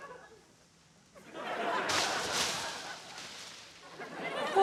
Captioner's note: laughter